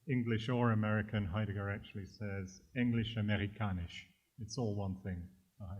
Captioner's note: german